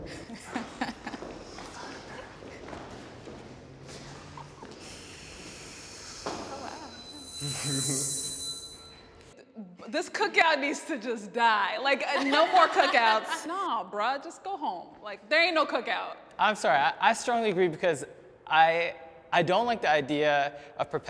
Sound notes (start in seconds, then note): 0.0 panelists laughing; 6.4 pitch whirring